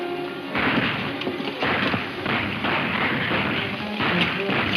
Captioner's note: gunshots banging